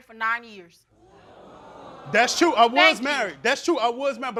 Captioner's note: crowd oohing